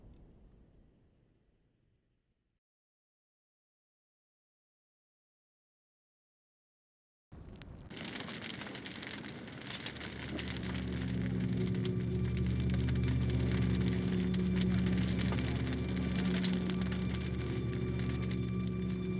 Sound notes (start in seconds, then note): 7.1 fire crackling; 9.9 somber music plays